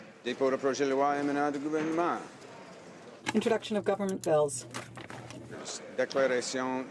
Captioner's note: speaking French